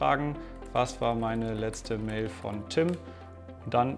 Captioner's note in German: Tastaturgeräusche